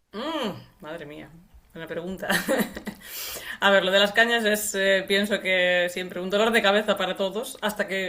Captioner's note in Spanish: risas